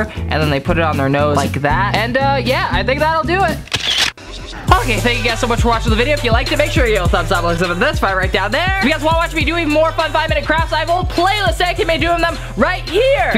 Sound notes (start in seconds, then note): 3.6 camera clicking